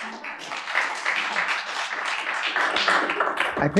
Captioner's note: applause